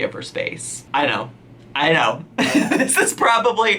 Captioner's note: laughs